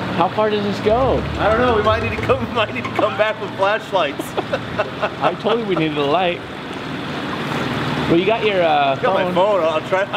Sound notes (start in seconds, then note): 4.1 laughing